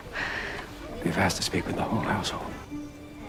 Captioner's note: voiceover